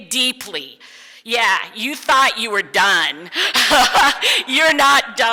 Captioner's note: laughs